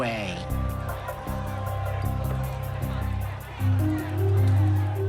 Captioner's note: yelling and clamoring